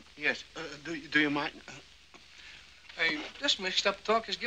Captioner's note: stammering